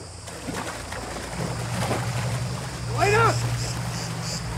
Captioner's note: water splashing